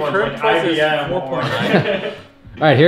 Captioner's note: laughing